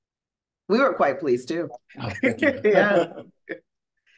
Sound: laughing

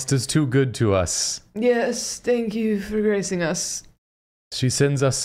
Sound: tired British accent

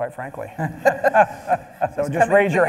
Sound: panel laughing

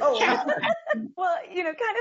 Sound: group laughs

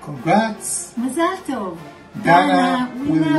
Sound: speaking hebrew

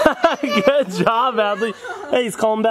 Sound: laughs

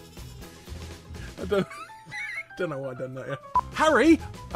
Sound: wheezing

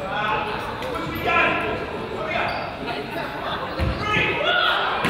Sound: crowd chatters

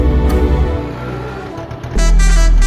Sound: auto engine revving

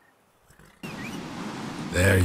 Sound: whistle

